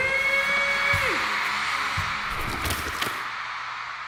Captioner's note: crowd cheering